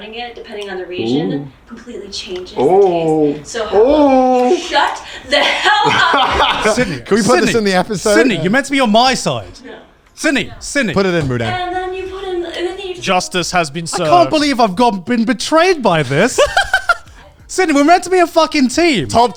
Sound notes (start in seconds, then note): 3.3 mockingly singing; 5.3 laughing; 16.0 laughing